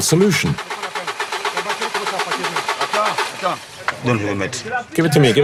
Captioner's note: foreign language